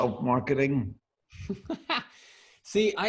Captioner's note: laughs